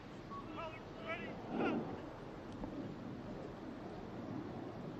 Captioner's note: military commands off mic